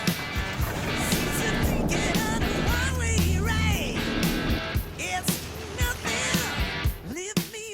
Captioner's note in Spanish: Ruido de la avioneta